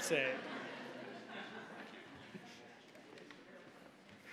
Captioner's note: audience laughing